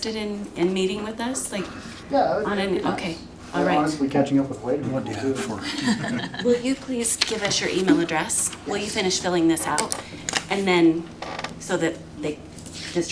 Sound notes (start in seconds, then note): 5.0 laughter